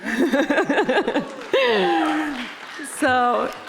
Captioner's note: audience applauding; laughing